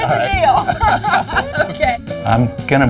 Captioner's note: laughs